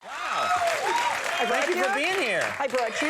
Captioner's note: audience cheering